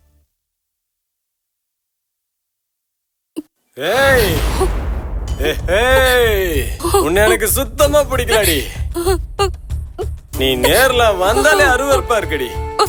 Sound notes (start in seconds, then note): 3.8 shouts from outside